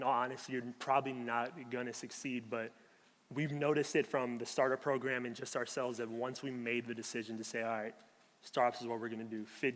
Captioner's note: none